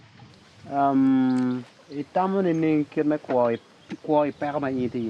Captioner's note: speaking in foreign language